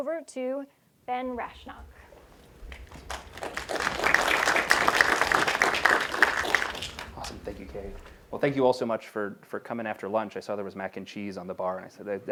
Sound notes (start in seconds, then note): 1.8 applause